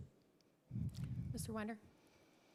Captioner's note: mic adjustment